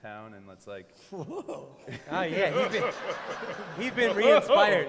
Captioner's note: laughter